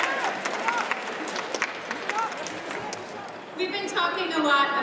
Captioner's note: audience applauds